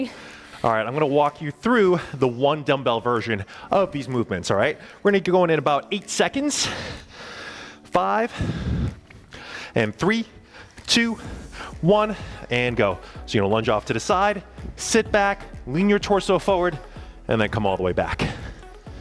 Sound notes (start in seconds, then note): 8.6 panting; 12.4 panting; 18.7 upbeat music